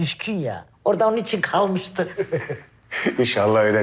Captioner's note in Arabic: يضحك